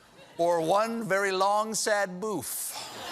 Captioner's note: laughter